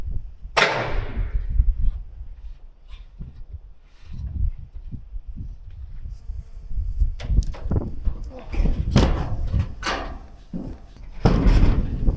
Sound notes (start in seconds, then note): 0.6 metal clanking; 8.4 metal clanking